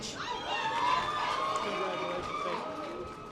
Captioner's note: audience applause